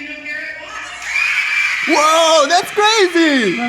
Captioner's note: audience cheers